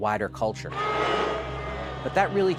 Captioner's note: booing